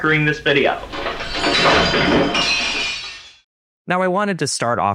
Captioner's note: crash